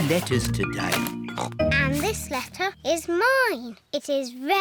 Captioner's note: snorts